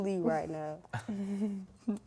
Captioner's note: laughing